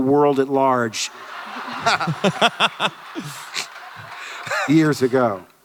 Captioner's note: Hardwick et al laughter; audience laughter